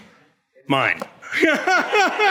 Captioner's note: everyone laughs